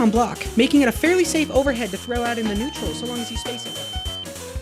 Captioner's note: ear ringing